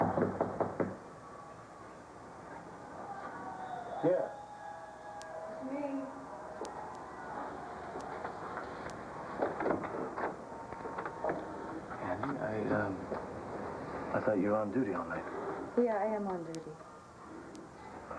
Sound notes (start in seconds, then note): 1.5 knock on door